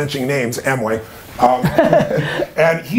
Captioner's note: laughter